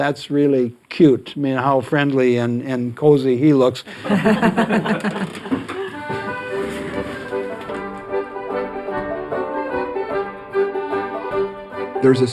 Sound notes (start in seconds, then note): 3.9 laughter; 7.1 folk music playing